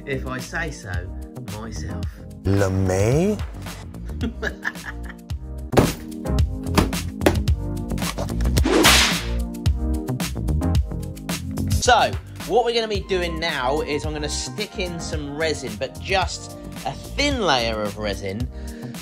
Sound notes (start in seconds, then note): 4.0 laughing; 5.8 containers banging; 8.6 air cracking